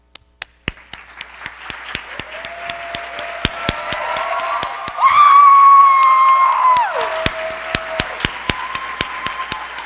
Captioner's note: cheers and applause